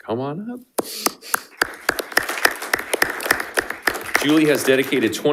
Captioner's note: panelists applauding